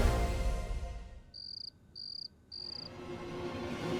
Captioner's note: insects chirping